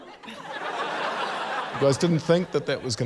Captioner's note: laughter